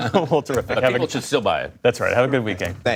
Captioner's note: laughter